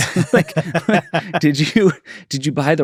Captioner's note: laughs